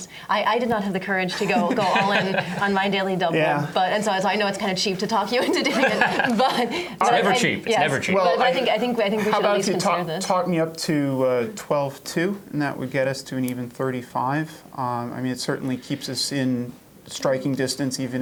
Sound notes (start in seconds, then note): 5.4 laughter